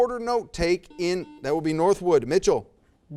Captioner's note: buzzer